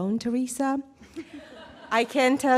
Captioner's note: audience laughing